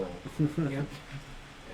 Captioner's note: laughs